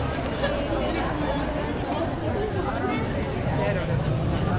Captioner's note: people chattering